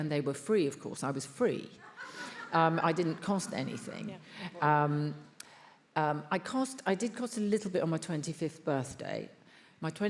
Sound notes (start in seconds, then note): 1.8 attendees laughs